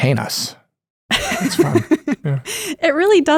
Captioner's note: laughs